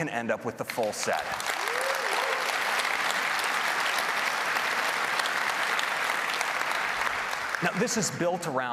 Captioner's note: applause